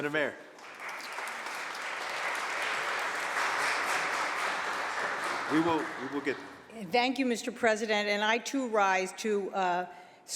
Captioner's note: applause